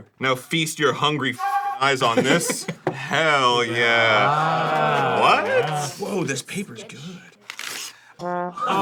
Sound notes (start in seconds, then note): 4.2 crew ooos and awes; 7.4 paper immediately rips